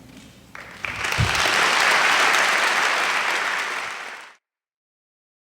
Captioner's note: applause